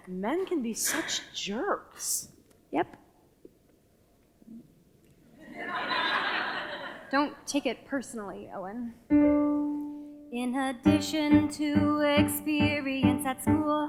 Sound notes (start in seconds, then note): 5.4 audience laughter; 9.1 piano music plays